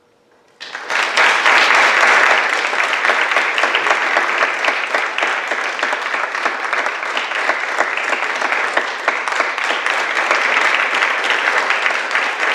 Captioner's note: audience clapping